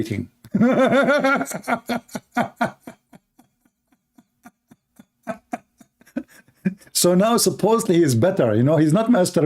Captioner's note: Ketawa